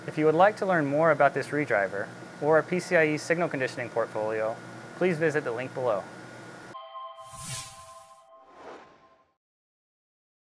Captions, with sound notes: If you would like to learn more about this redriver, or our PCIe signal conditioning portfolio, please visit the link below. [CHIMES] [WHOOSHING]